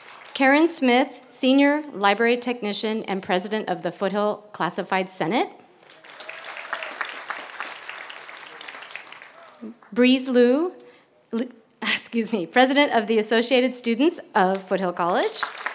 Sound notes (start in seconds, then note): 0.0 applause; 5.8 applause; 15.0 applause